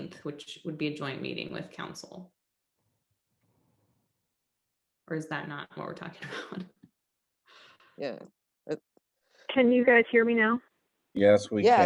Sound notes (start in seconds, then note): 6.2 laughter